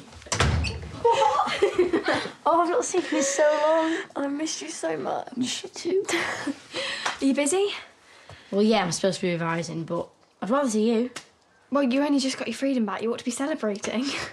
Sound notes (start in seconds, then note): 1.0 laugh and giggle